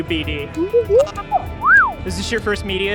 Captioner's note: BD-1 sounds